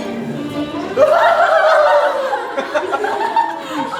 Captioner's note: laughter